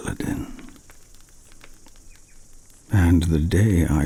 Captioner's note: fire crackling and night insect buzzing